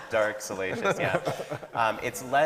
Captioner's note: laughing